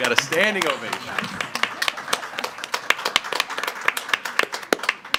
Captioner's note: participants laughing; participants applauding